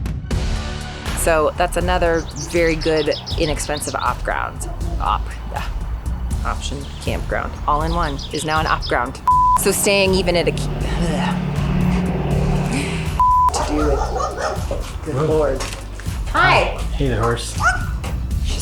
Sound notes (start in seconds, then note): 14.7 dogs barking